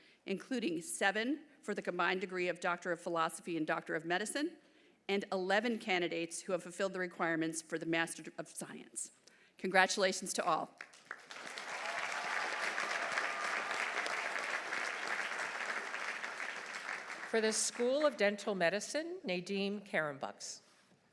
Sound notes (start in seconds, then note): 10.8 audience applauding; 11.2 audience cheering